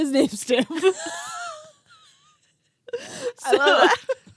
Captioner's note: girls giggling